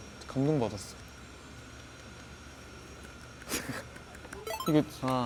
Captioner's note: an applause hearing it from his favorite artist